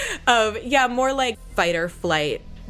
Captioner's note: laughs